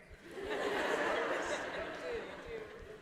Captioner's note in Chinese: 大笑